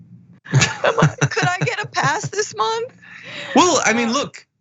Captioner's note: laugh